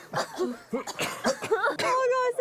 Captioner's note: coughs